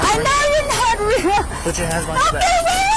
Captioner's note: suspect screaming